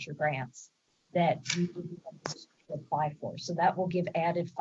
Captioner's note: distorted sound